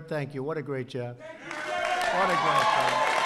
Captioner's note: applause